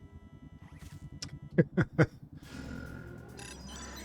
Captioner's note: laughs